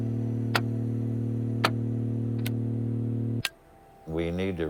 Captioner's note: buttons clicking